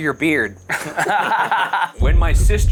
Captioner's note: all laughing